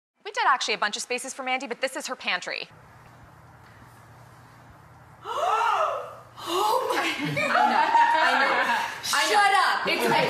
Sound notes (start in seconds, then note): 5.3 gasps